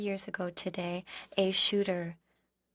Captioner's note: speaking French